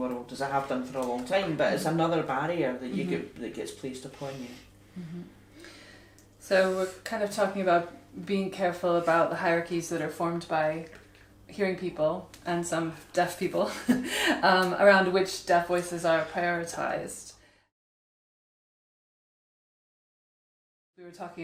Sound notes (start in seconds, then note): 18.5 audio fades out